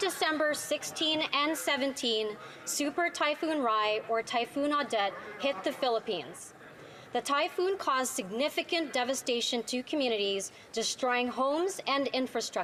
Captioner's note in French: voix de l'interprète